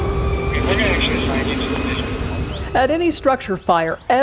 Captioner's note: siren blaring; radio chatter